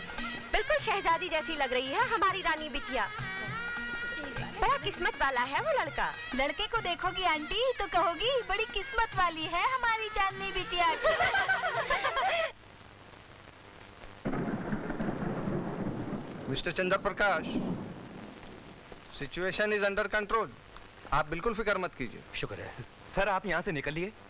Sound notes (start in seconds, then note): 10.7 Laughs; 14.2 Thunder rumbling